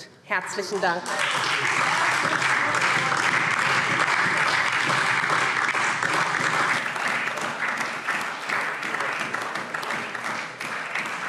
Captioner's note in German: Beifall SPD und DIE LINKE